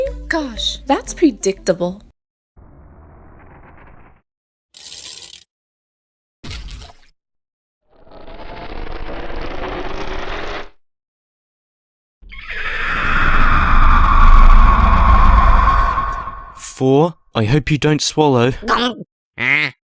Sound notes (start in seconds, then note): 12.2 echoey screech